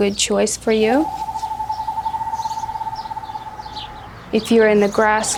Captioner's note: owl cooing